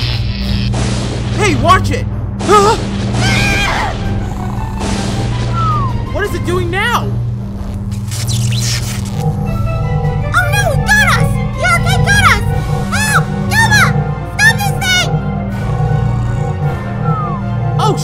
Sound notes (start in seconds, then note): 3.2 scream; 3.9 snoring; 15.4 snoring